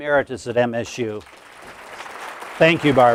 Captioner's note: applause